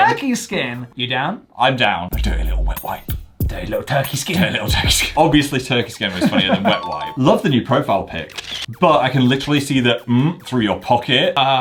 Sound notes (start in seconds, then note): 6.6 bell chimes